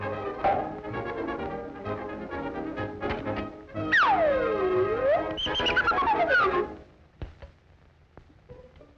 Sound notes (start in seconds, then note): 4.9 whistle blows